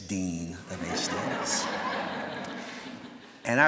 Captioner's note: laughter